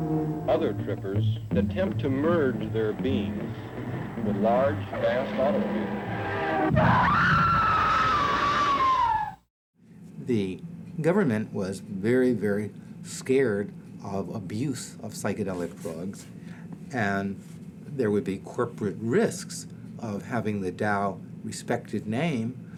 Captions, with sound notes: Other trippers attempt to merge their beings with large, vast automobiles. (tires screech) (woman screams) - The government was very, very scared of abuse of psychedelic drugs. There would be corporate risks of having the Dow respected name